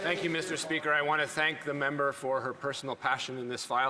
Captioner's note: some Applause